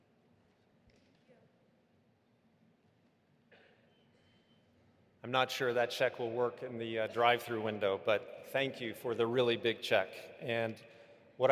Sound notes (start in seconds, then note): none